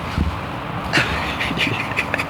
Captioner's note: laughter